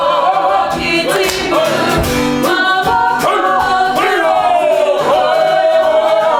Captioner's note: chanting